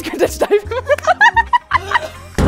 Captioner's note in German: Gelächter